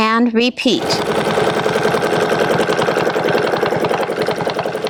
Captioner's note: machine whirring